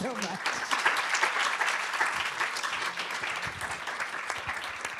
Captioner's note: applause